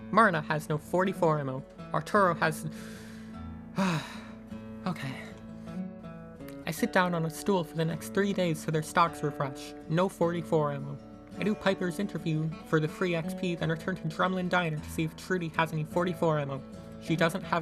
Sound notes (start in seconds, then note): 3.7 sigh